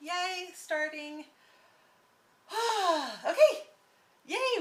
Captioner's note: sighs